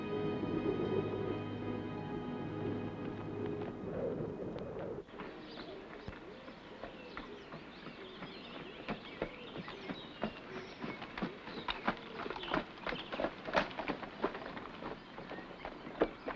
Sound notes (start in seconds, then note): 1.9 wind blowing; 5.1 birds chirping; 5.1 hooves trotting